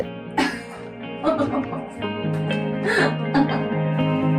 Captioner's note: laughing